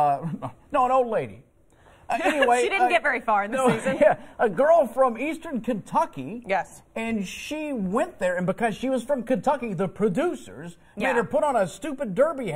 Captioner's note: laughter